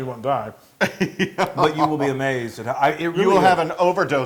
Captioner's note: laugh